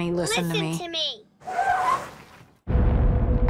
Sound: brakes screeching

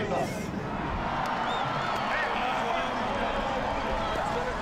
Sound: hand clapping; crowd cheering

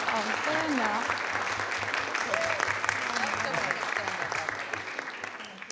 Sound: audience applauding

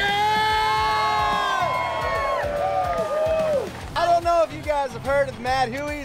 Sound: cheering

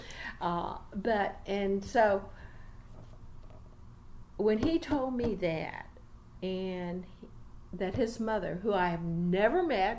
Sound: resumes tapping table

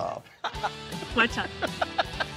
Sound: laughing

